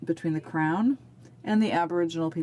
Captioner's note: speaking alternate language